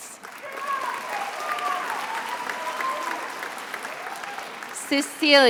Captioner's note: attendees applauding